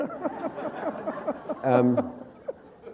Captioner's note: laughter